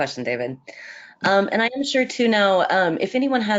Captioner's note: audio warps